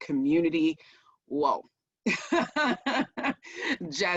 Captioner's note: laughs